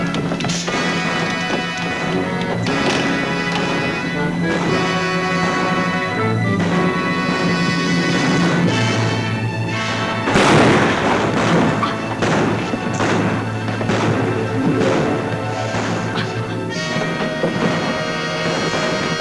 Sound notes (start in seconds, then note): 0.0 exciting music; 0.0 guns bang; 10.4 gun bangs; 11.7 guns bang